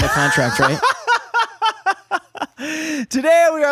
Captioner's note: laughing